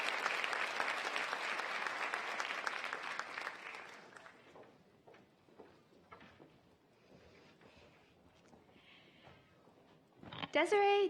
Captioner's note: applause